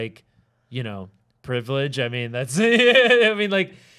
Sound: laughing

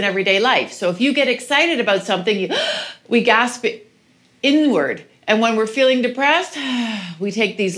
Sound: gasps; sighs

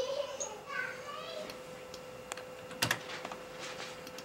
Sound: giggles; mouse clicks

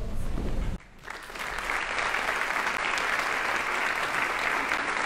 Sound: audience applauding

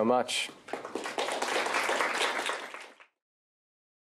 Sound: applause

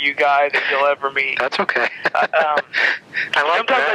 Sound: laughs

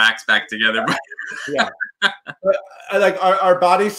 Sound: laughing

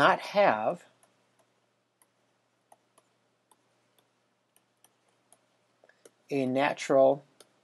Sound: writing

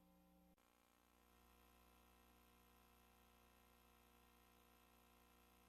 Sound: VHS static

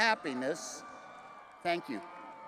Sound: crowd cheering

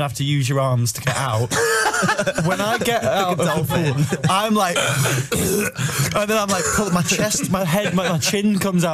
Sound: splutters

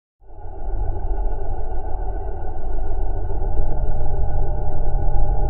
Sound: celestial bodies whirring

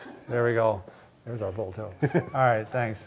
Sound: laughs

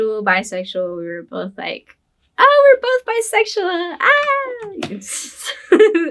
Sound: laughs

